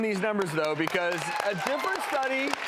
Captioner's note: cheering and applauding